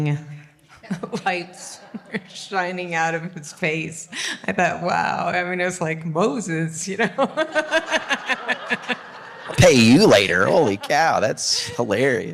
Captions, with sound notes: Lights were shining out of his face. I thought, wow, I mean it was like Moses. (Audience Laughing) Pay you later, holy cow, that's hilarious.